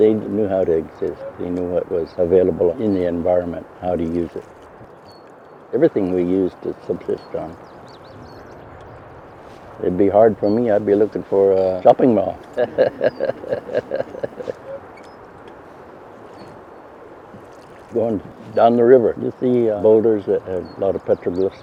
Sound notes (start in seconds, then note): 12.5 laughter